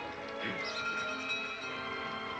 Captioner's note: padre chuckles; door bell ringing